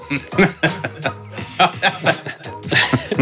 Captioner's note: laughing